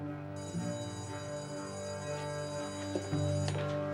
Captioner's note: school bell ringing